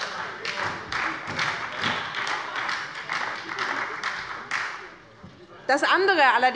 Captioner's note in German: Heiterkeit und Beifall bei der SPD